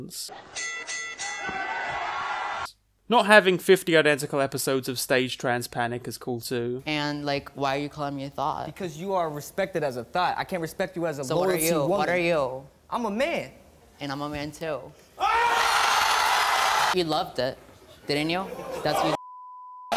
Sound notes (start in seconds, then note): 15.2 audience screaming